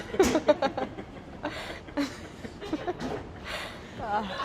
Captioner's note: laughing